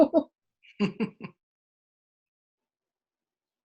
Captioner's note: laughter